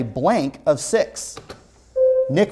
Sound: buzzer sounds

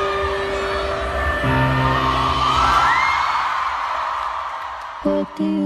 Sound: cheering

